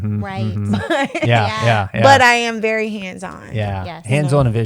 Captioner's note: chuckles